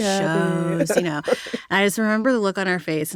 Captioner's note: laughter